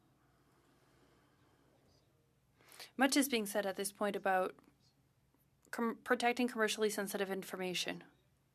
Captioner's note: speaking French